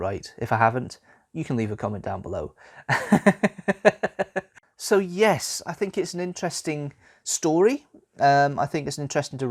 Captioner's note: laughs